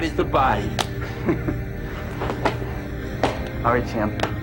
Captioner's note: laughs